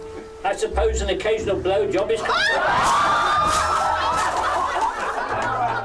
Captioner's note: laughter